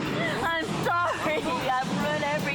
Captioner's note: sobbing